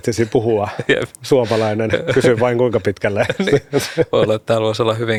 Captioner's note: laughter